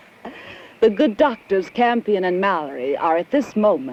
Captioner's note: chuckles